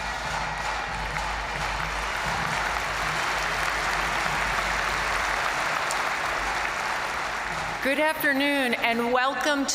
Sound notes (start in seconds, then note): 2.0 crowd applauding; 2.0 crowd cheering